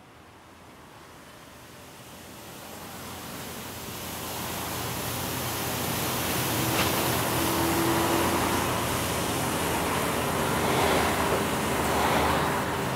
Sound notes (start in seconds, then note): 0.5 large vehicle approaches and departs